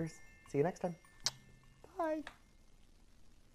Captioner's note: kiss sound